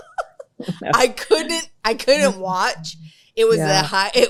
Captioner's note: laughs